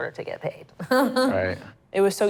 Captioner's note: laughter